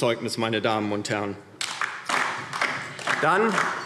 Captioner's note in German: Beifall DIE LINKE